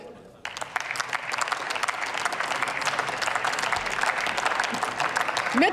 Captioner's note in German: Applaus